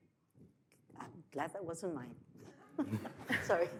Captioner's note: laughs